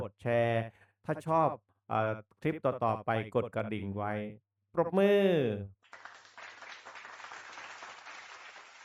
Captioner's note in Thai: ปรบมือ